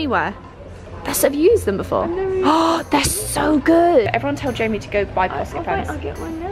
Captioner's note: gasps